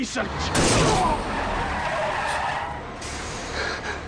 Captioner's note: horn honking; tires screeching